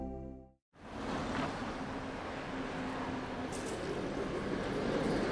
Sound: city traffic noise

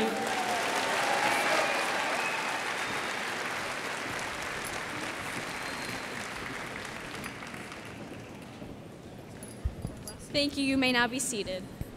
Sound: cheers and applause

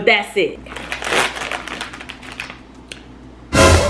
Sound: foil crinkling

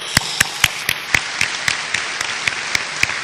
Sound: applause

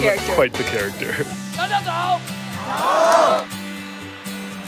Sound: yelling in Mandarin

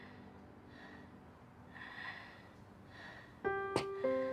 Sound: labored Breathing; tap On Glass

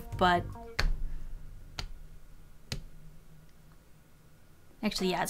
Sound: clap...clap....clap

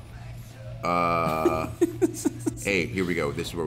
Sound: laugh

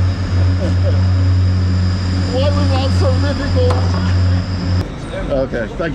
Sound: chuckles

